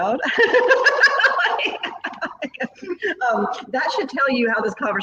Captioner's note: both laughing